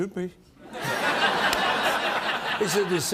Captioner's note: laughter